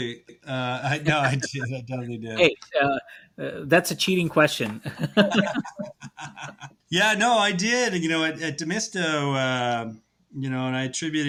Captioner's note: laughs